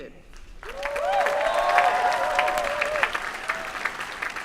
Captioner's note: applause